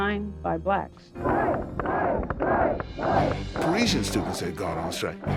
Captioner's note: crowd chanting